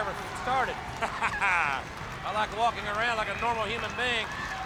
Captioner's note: laugh